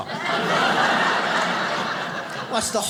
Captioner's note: audience laughs